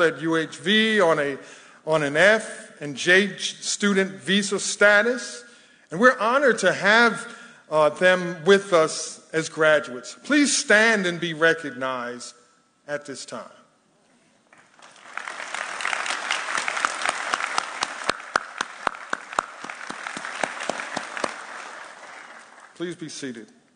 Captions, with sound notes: at UHV on a F and JH student visa status. And we're honored to have them with us as graduates. Please stand and be recognized at this time. (audience applauding) Please be seated.